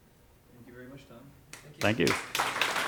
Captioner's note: voiceover; clapping